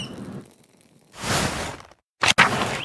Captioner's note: birds chirping; pages whooshing; birds chirping